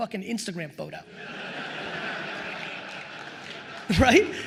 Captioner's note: attendees laughing